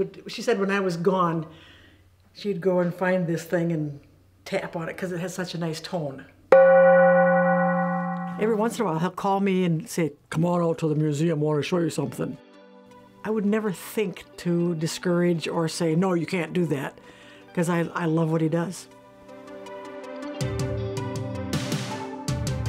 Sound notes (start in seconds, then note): 6.5 gong rings; 19.4 light upbeat music